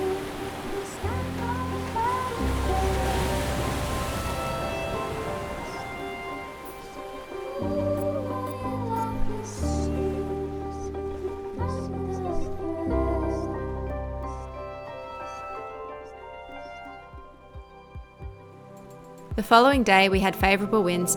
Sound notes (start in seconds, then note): 2.6 waves crashing